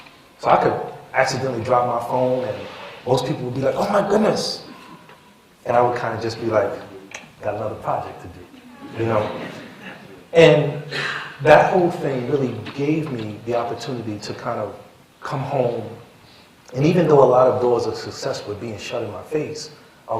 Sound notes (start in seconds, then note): 8.6 laughter